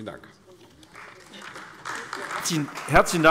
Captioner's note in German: Beifall AfD